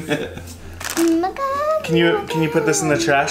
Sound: chuckles

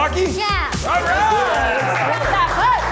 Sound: cheering

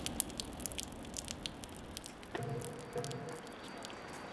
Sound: water dripping

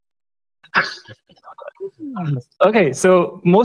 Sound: laughter

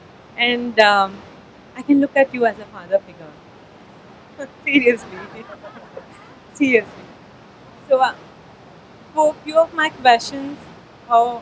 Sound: few laughs

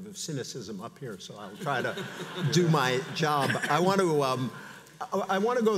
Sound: audience laughs

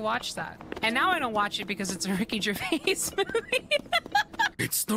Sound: laughter

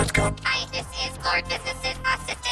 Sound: in robotic voice

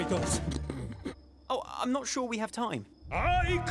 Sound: chuckling

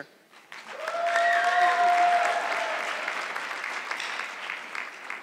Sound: audience clapping

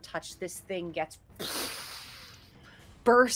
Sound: mimics explosion

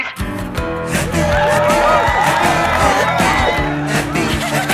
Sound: upbeat music; crowd cheers

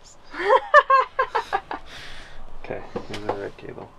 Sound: laughing

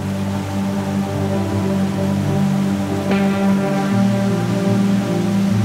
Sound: river babbles softly

